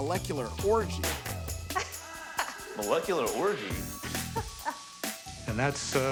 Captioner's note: laughing